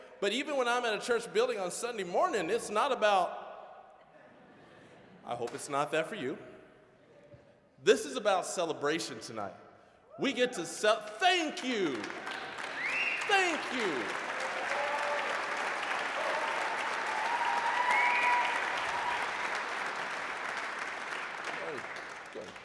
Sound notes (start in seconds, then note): 4.2 audience laughing; 12.0 applause; 14.7 applause, cheering